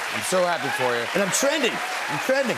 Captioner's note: cheers and applause